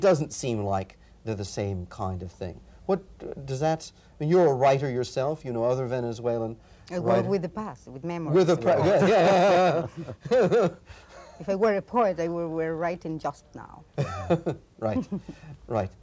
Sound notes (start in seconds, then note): 11.1 laughs; 14.0 chuckles